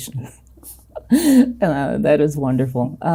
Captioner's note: chuckling